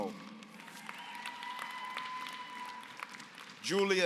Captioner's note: applause